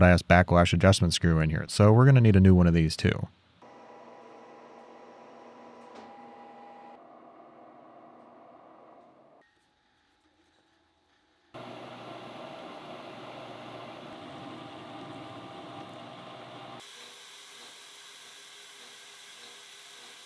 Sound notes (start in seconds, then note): 3.6 machine motor hums